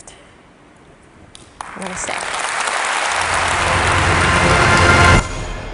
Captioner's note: applause